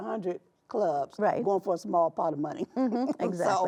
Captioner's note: chuckling